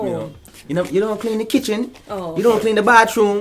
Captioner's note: Jamaican accent